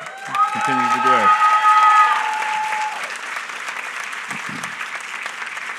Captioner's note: applause